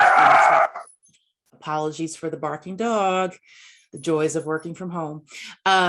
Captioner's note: barking